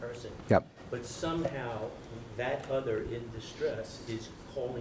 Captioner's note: voiceover